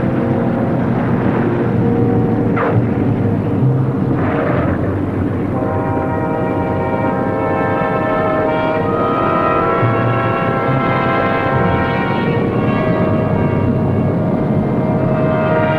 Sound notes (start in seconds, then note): 2.7 plane tires squealing; 8.2 dramatic orchestral music